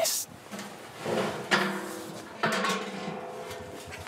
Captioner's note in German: Metallisches Scheppern